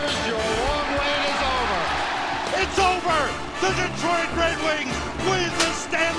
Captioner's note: crowd cheers